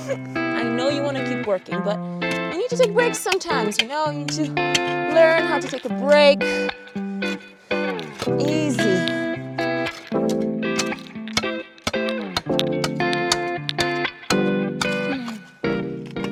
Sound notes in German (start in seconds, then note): 9.7 Schaufelklappern; 9.7 sanfte Akustikmusik